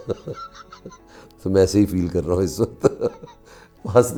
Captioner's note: laughs